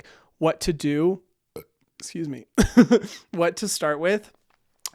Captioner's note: burps